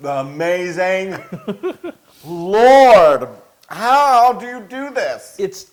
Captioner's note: laugh